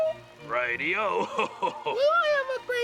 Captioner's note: laughs